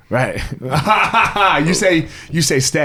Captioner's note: laughs